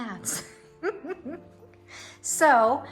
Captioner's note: laughs